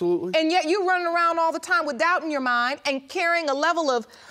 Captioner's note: none